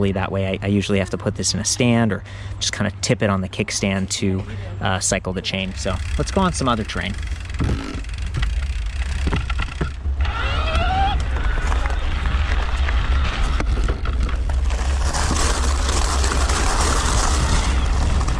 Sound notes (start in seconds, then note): 10.5 bicycle motor roars